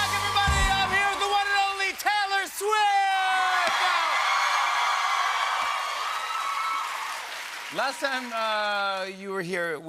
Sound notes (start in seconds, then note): 3.8 cheers and applause